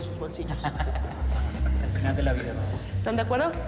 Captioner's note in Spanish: Ellos ríen